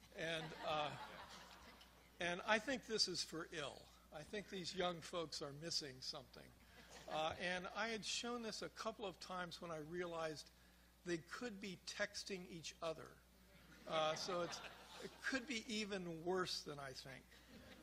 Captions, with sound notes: (crowd laughs) And I think this is for ill. I think these young folks are missing something. I had shown this a couple of times when I realized, they could be texting each other. (crowd laughs) So it could be even worse than I think.